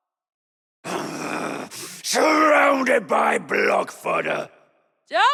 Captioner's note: growl